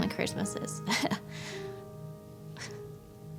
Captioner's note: chuckles